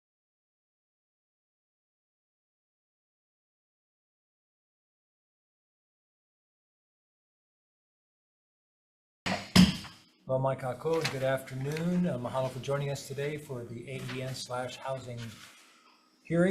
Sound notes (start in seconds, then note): 9.2 gavel clacks; 10.7 foreign language